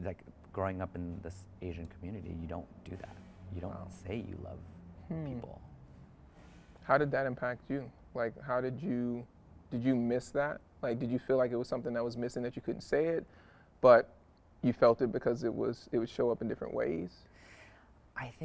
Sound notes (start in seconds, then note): none